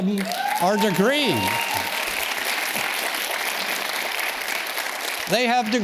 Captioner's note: audience cheers and claps